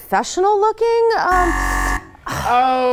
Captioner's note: alarm beeps